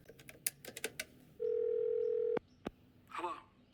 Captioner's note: phone keys clicking; phone ringing